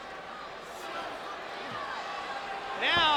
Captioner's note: spectators cheering